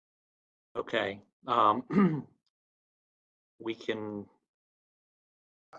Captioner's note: cough